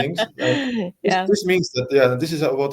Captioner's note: laugh